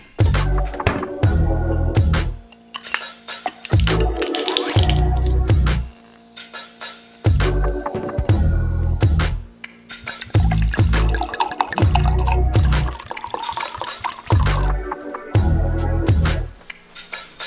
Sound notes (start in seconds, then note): 10.2 wine pouring; 14.7 relaxed music